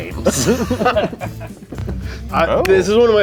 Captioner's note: laughs